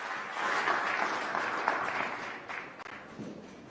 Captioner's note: applause